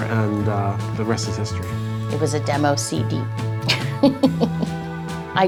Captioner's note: laughing